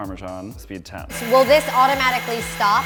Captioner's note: Thermomix whirring